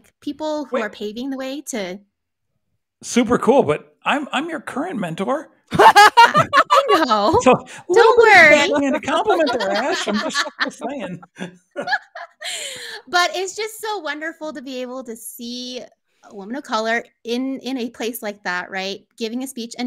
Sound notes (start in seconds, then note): 5.7 laughs